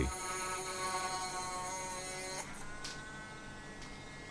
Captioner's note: drill whirring